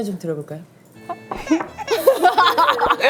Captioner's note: crying